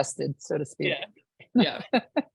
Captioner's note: laughing